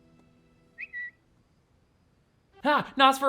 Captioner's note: phone whistles